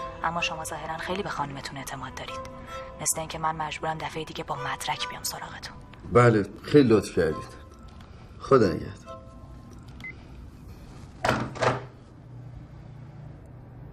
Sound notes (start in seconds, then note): 10.0 hang up click; 11.2 thud